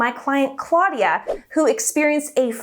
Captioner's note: air whooshing